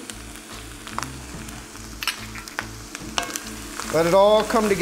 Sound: food sizzling

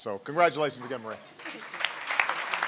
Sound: applause

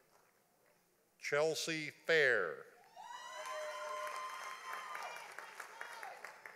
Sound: audience applauding

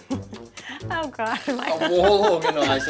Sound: giggling

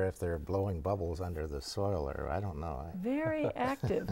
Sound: laughing

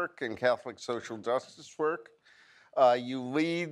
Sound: none

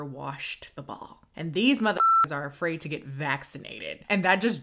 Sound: beep

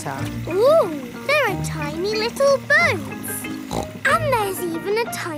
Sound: snorts

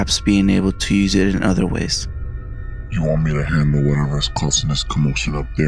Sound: laughs

